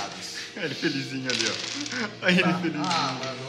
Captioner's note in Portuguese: Risos